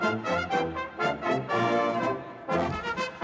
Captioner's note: none